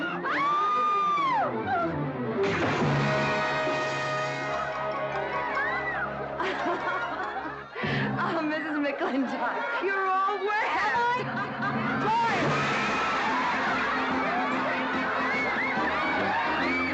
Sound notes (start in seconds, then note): 0.0 screaming; 2.5 splash; 12.4 splash; 13.7 crowd laughing & marveling